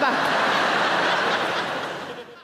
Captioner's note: audience laughing